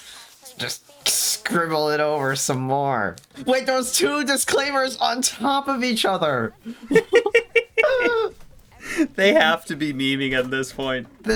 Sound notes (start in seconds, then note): 6.6 laughing